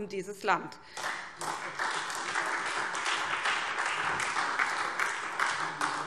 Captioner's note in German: Beifall SPD